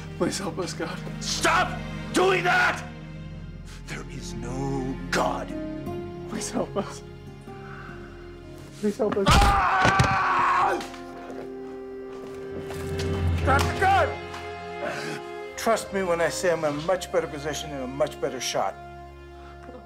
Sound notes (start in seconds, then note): 9.9 Dmitri roaring; 12.8 dark dramatic music